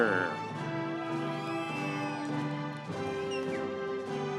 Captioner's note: audience cheering